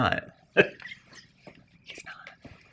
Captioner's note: guy laughs